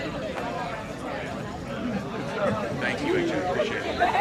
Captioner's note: people chatting